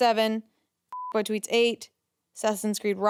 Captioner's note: beep